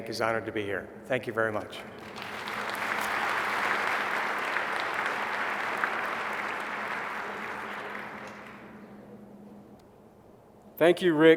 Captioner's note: applause